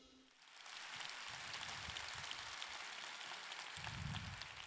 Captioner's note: audience clapping